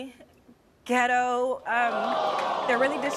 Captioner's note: crowd cries in outrage